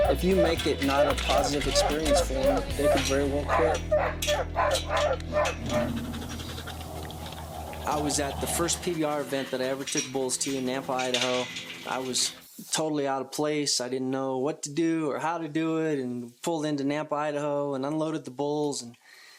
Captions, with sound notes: If you make it not a positive experience for them, they could very well quit. (dog barking) - I was at the first PBR event that I ever took bulls to in Nampa, Idaho, I was totally out of place, I didn't know what to do or how to do it and pulled into Nampa, Idaho and unloaded the bulls